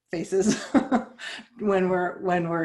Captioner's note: chuckles